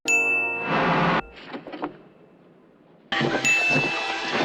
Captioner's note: bell ringing